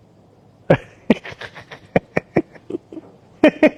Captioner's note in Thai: เสียงหัวเราะ